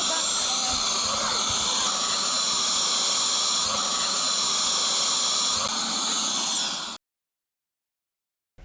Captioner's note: air duster whirring